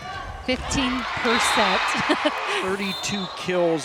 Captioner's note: chuckles